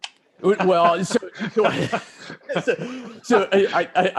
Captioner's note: laughing